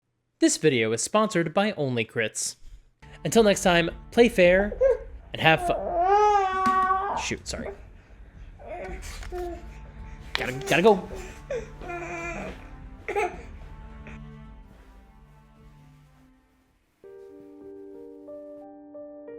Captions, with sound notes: This video is sponsored by OnlyCrits. Until next time, play fair and have fun— [Baby crying] Shoot, sorry. Gotta go.